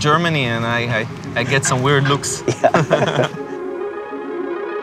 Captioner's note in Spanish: risas